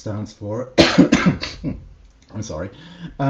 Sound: coughs

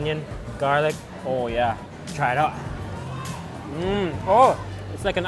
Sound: murmurs

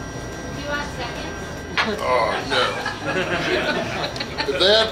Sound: crowd

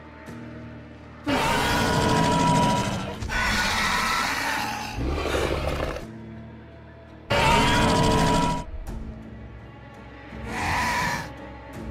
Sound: Scorpius Rex growls and squeals

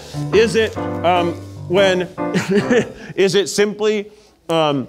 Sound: chuckling

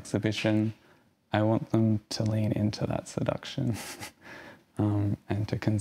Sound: laughs

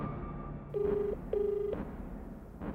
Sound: line ringing

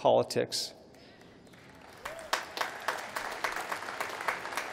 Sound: applause

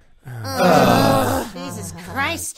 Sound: everyone groans

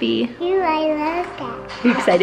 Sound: child babbles

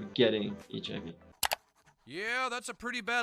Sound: background mouse clicking

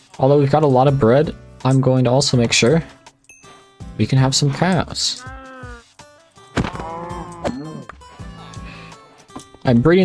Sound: cow moo sound

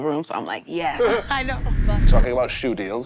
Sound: wind whooshes

